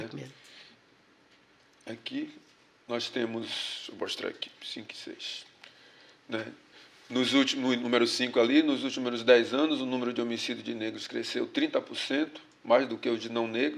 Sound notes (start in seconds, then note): 7.0 speaking portuguese